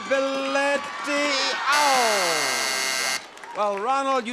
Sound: sound effect buzzes

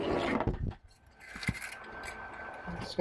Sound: fan sound

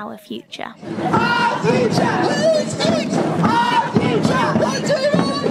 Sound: chanting

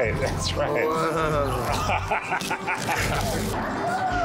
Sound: laughs

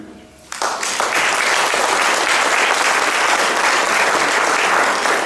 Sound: audience clapping

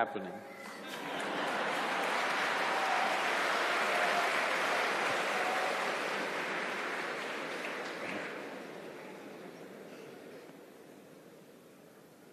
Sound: laughter/Applause

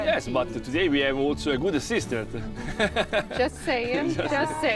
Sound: laughs

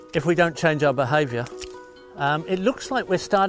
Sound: twig snaps

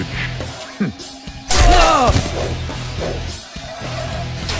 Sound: groans from rejection

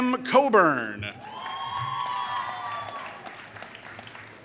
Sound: applause

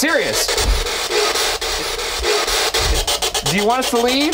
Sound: static buzzing

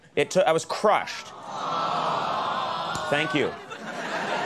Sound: audience moans; audience laughs

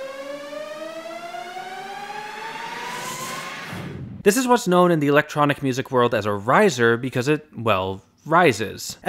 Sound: bang

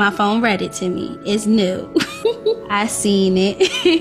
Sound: laughs

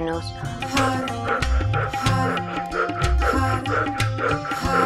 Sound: loud breathing

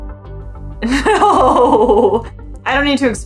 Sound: background music; laughs

